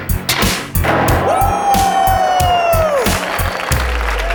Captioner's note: cheering